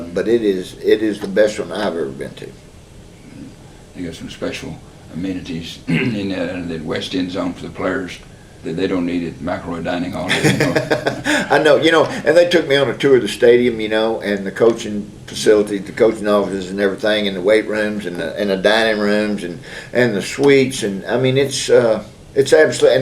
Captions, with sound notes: them, but it is the best one I’ve ever been to. They’ve got some special amenities under that West End Zone for the players. They don’t eat at microwave dining halls. (Laughter) They took me on a tour of the stadium and the coaching facility, the coaching offices and everything, and the weight rooms and the dining rooms and the suites, and I mean, it’s